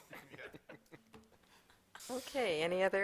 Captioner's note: laughter